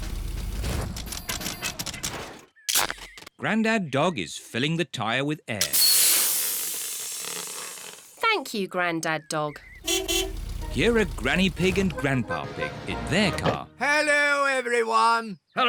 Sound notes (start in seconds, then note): 5.6 air hissing; 9.7 horn beeps